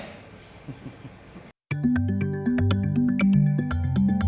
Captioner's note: chuckles; mellow music